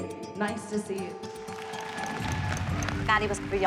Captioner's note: applause